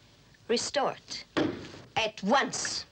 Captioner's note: thumps table